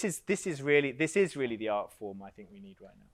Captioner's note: none